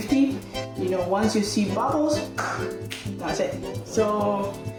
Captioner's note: claps